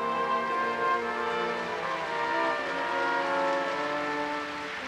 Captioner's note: audience applauds